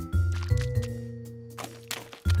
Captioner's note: footsteps